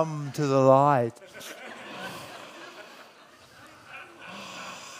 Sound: audience laughs

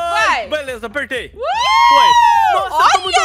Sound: screams

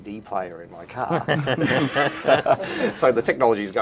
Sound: laughing

